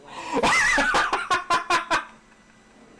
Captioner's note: extreme laughter